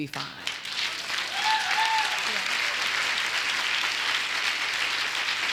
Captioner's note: audience applauds